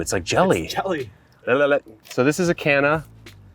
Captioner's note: tongue wiggles